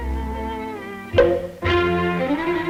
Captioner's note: bonk!